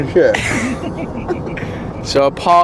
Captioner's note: laughter